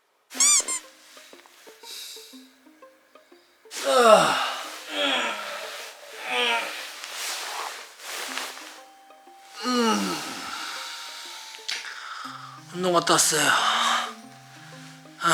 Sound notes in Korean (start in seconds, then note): 7.9 이곳엔 패딩 뽀시락거리는 소리와 낑낑거리는 신음만 존재할 뿐